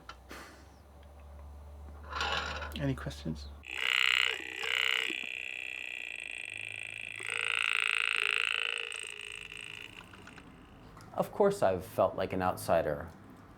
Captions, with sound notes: Any questions? [electric voice sound] Of course I’ve felt like an outsider,